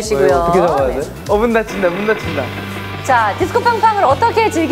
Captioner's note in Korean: 드르르륵